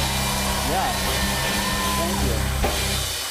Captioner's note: cheers and applause